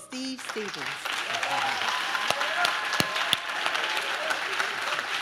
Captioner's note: audience claps